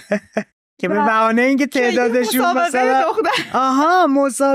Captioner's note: laughs